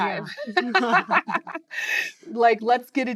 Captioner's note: laughter